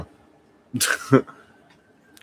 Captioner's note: laughs